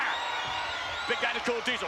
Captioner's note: spectators cheering